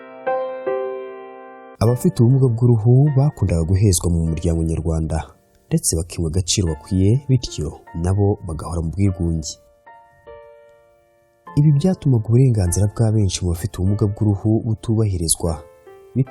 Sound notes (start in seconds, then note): 3.0 speaking in foreign Kinyarwanda